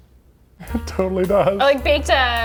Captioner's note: chuckling